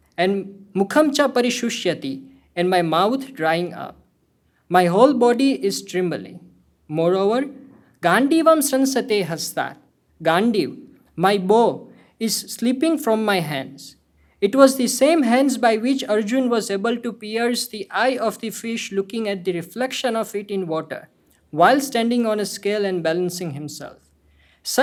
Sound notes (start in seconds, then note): 0.5 speaking hindi; 8.1 speaking hindi